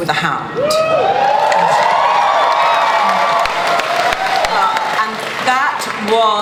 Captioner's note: audience cheering and applause